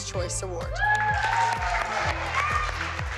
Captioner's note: girls whooping